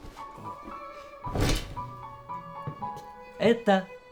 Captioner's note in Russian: звук распахнувшихся штор